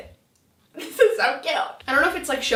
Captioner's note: laughing